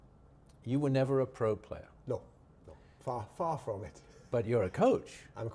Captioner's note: chuckles